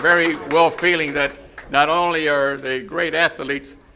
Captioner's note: applause